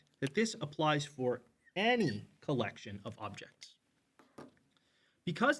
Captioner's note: marker squeaks